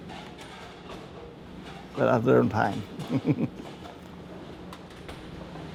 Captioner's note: laughs